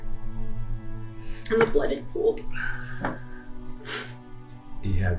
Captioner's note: crying